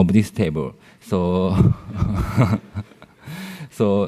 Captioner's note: laughter